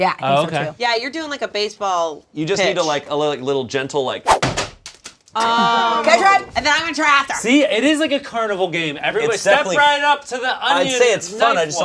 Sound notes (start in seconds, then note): 4.2 air swooshing